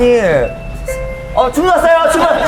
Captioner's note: ding dong